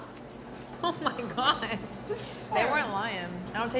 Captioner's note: laughs